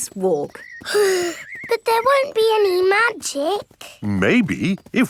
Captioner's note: sighs